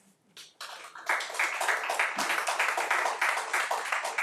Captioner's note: crowd applauding